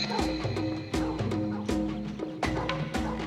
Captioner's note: dog barking